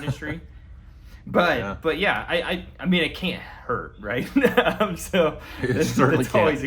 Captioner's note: laughs